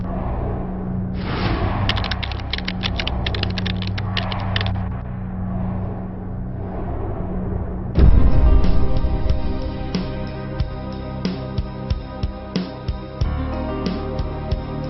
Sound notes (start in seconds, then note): 1.9 keys tapping; 9.4 suspenseful music